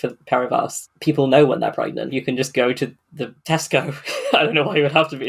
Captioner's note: laughing